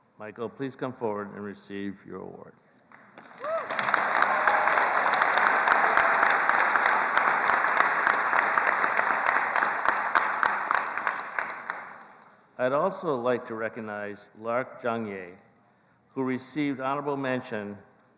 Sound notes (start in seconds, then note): 3.9 attendees applauding